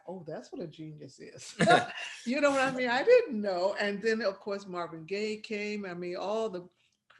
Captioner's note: laughing